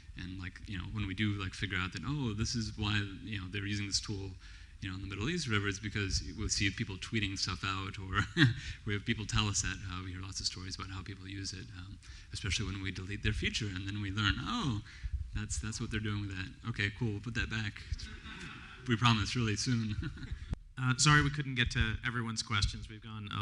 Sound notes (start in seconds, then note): 8.1 laughs; 18.0 laughs; 18.0 laughter